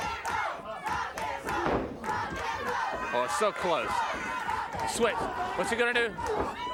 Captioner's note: applause